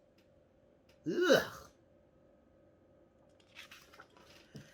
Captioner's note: gags